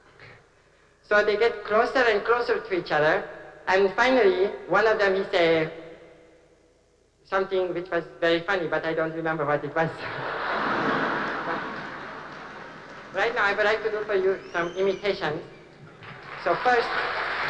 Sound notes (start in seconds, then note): 10.0 laughter